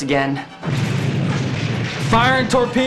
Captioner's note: explosion